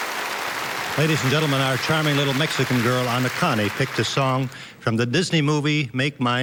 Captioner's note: applause